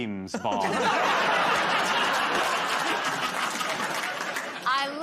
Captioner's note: laughter